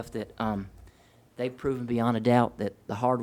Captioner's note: none